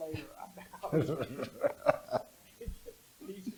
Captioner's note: laughter